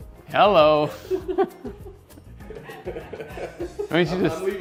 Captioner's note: everyone laughing